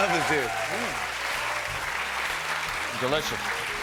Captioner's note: cheers and applause